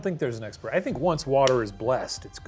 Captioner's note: palms clapping